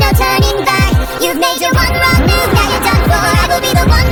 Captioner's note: cyclops roars